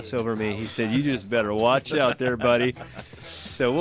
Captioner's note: laughs